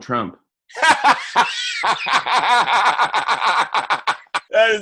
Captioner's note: laughs